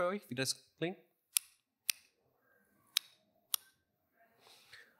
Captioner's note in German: Klicken